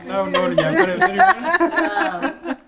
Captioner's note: laughter